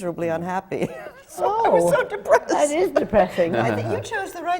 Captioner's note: laughs